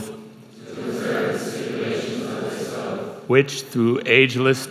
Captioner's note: crowd